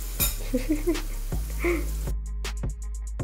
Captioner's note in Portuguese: hehehe